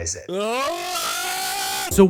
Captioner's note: screaming